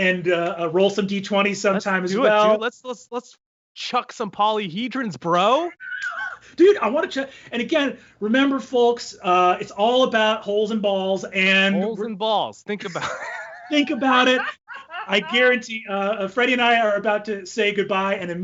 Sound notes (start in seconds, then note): 5.8 laughs